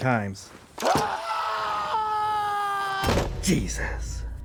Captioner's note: screaming